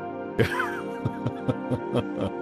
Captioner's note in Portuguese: Risada